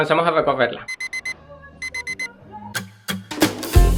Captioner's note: the alarm clock sounds